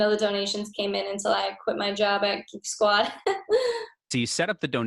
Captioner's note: chuckles